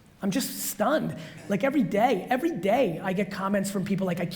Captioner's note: none